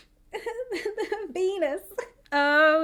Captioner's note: chuckles